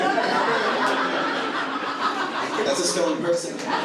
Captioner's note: audience laughing